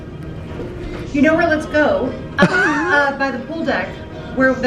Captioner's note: laughing